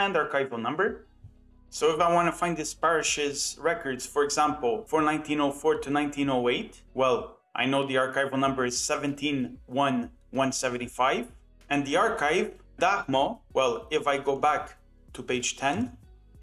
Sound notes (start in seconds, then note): 12.4 in Polish